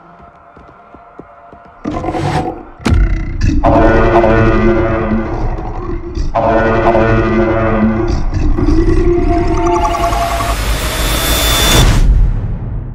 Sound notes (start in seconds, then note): 1.8 growling; 3.9 siren Sounding